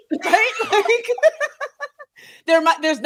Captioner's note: both laughing